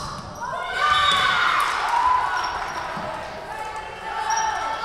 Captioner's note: whistle blowing